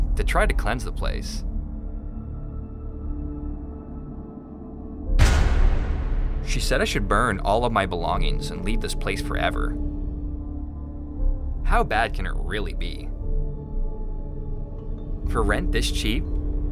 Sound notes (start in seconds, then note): 2.1 eerie music; 5.2 loud banging; 13.0 eerie music